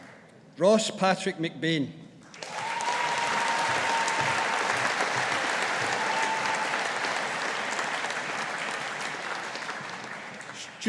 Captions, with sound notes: Ross Patrick McBain. (AUDIENCE APPLAUDING)